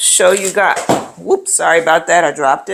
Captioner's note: item thuds